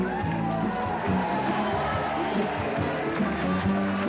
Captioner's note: crowd cheers